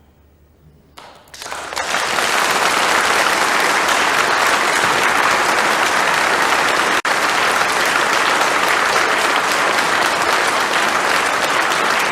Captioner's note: applause